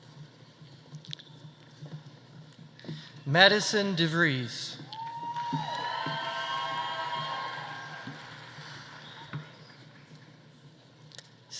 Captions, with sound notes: Madison Devries. (audience applauding) (audience cheering)